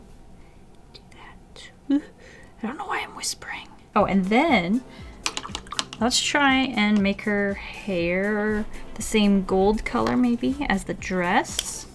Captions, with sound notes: ᵈᵒ ᵗʰᵃᵗ ᴏᴏʜ, I ᴅᴏɴ'ᴛ ᴋɴᴏᴡ ᴡʜʏ I'ᴍ ᴡʜɪsᴘᴇʀɪɴɢ. Oh, and then... *off-camera watter swooshies* Let's try and make her hair the same gold color maybe as the dress.